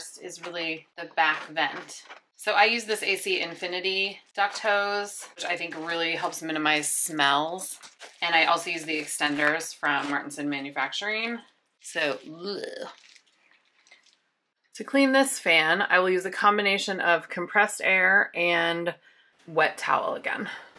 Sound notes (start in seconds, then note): 12.9 retches